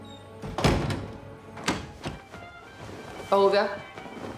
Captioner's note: door thuds shut